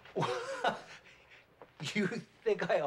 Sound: chuckling

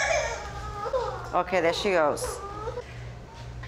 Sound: crying

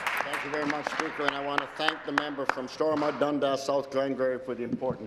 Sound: applause

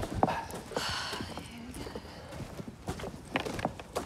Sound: breathing

